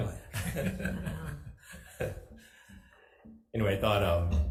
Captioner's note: both laugh